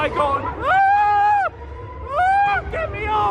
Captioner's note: screams